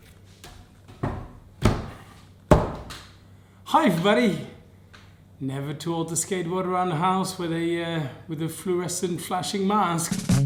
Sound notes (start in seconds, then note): 2.5 arms pounding down on table; 10.1 upbeat music